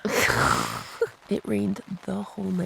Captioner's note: both laugh